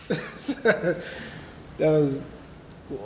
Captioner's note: laughing